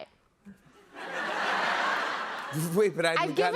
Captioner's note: laughter